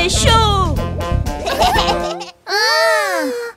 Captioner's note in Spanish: Risas